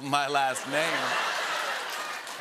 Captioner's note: laughter and applause